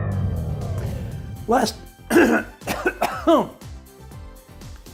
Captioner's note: coughing